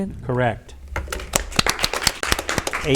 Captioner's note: audience applauds